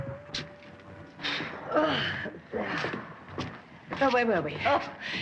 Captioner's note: groans softly